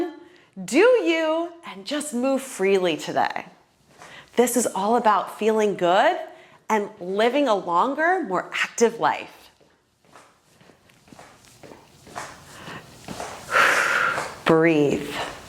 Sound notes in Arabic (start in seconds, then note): 12.4 يتنفس بشدة